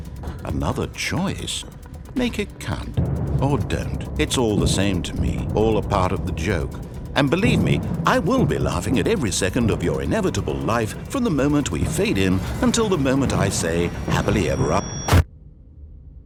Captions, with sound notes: Another choice! Make it count. Or don't. It's all the same to me. All a part of the joke. And believe me, I will be laughing at every second of your inevitable life from the moment we fade in until the moment I say "Happily ever a - (explosion)